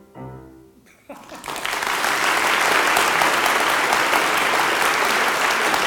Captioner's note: applause